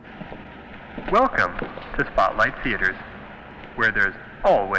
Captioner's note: man On PA